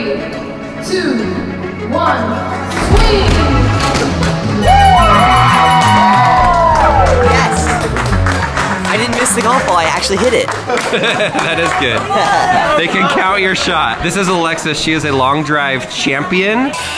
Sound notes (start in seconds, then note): 4.9 crowd cheering; 10.0 laughs